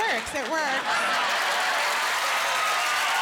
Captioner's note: crowd cheering